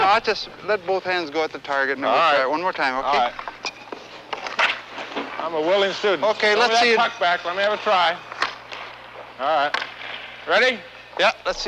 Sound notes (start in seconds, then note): 4.2 hockey stick smacks